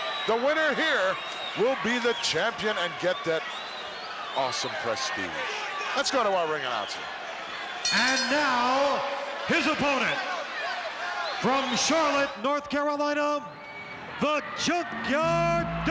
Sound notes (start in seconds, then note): 7.8 bell rings